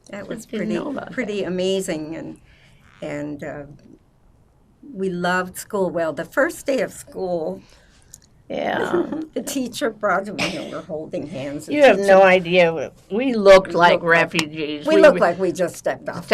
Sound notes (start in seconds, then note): 8.8 laughing